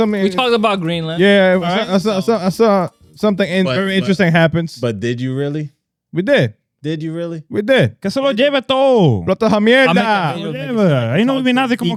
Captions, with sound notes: We talked about Greenland. Yeah, something very interesting happens. But did you really? We did. Did you really? We did. (Speaking In Foreign Language)